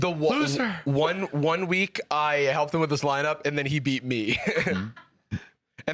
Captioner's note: laughs